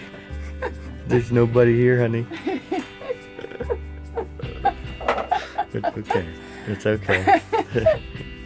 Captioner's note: laughing